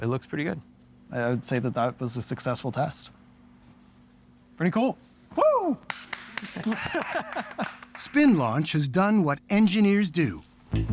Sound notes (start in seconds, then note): 5.8 clapping; 6.6 laughs